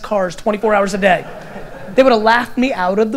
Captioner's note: audience laughter